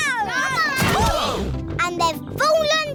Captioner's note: all groan